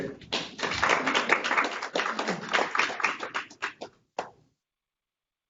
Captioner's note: participants applauding